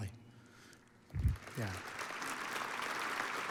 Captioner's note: audience applauds